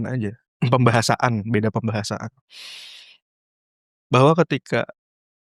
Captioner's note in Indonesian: berdehem